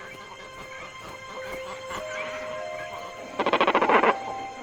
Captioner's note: gentle music; birds calling